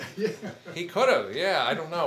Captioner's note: attendee chuckles